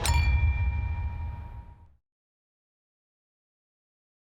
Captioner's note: glass clinks